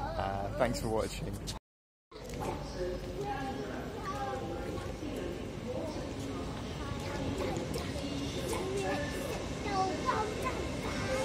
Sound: train noise

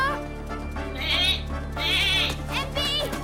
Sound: bleating

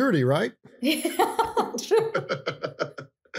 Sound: laughing

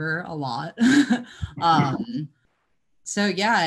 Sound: chuckles

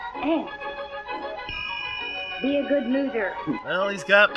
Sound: ding!

